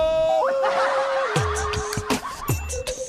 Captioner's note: american-style suppressed laugh